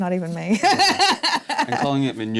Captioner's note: laughter